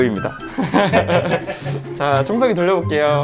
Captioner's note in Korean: 웃음